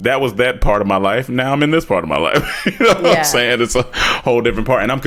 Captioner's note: chuckles